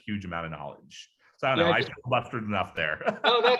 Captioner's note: laughs